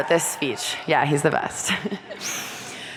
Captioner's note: audience cheering; chuckles